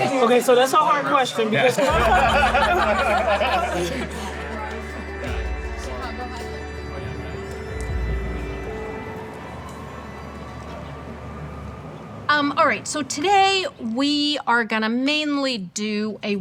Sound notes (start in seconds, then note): 1.4 attendees laughing; 7.7 soft ambient music